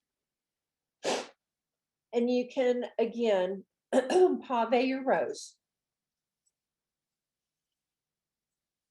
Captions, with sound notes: And you can, again,(clears throat) pavé your rose.